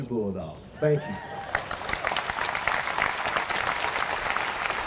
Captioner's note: applause